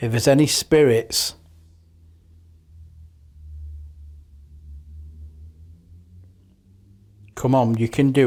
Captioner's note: silence